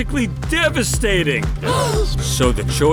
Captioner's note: gasp